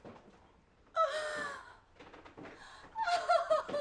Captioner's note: gasping